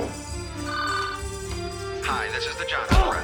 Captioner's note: phone rings